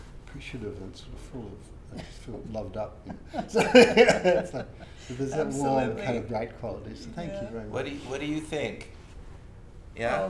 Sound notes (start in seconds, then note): 3.0 laughs